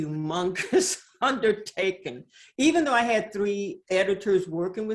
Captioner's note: laughs